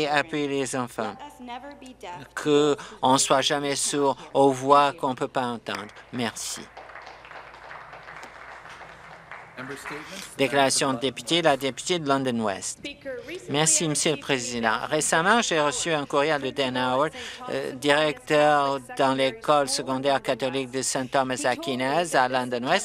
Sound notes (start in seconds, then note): 7.8 some Applause